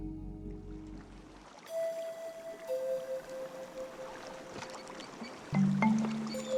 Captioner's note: gentle music continues; river babbling; gentle flute music